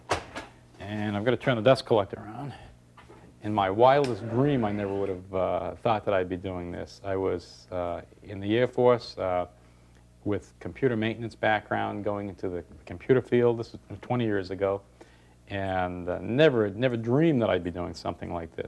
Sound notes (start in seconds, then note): none